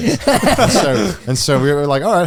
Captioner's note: all laughing